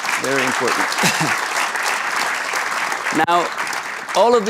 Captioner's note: applause